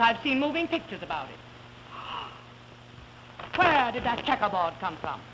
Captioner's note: gasp